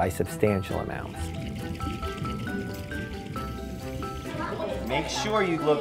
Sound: water movement

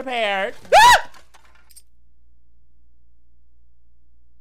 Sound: screaming

